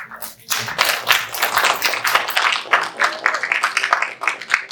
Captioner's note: audience applauding